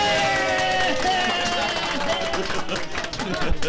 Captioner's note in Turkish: hep bi̇rli̇kte bağirirlar